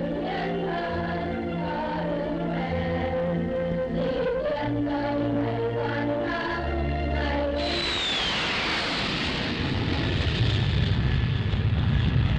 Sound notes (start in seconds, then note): 7.2 planes roaring